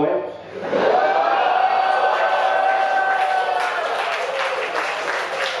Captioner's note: audience cheering and clapping